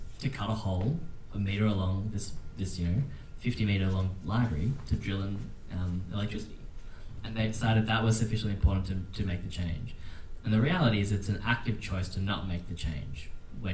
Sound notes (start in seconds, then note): none